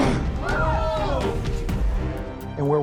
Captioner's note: fires gunshot; people gasp; thud